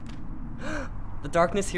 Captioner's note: gasps